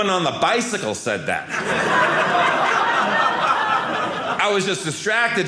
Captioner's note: audience laughing